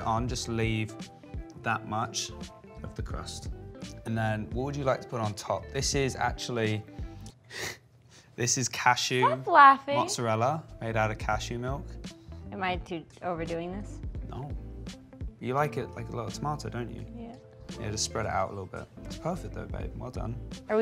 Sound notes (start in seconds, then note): 7.5 laughs